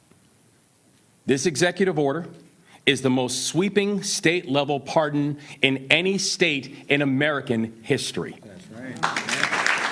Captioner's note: applause